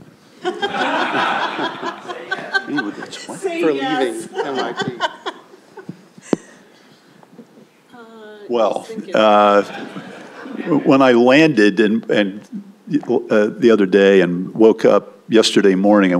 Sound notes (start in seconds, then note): 0.4 laughter; 4.0 laughs; 9.5 laughter